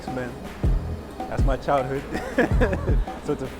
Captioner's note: laughs